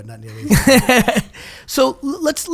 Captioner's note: laughing